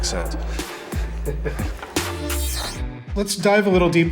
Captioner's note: laughing